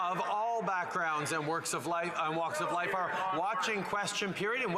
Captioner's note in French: voix de l'interprète